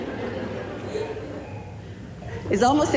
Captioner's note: baby laughing; audience laughing